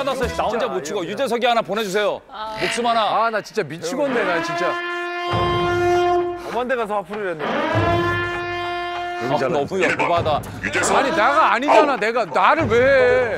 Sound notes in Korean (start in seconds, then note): 7.3 왜앵 사이렌이 울린다